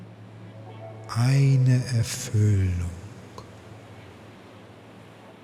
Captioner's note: german